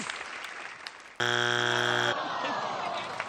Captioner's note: buzzer